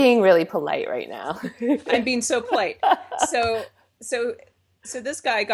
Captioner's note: laughs